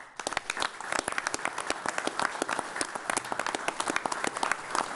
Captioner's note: all applauding